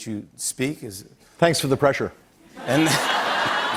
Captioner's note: laughter